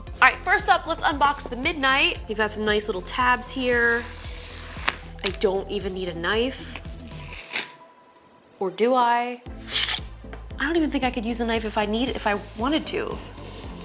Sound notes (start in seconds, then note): 4.1 box tears; 7.0 box tears; 9.6 knife clinks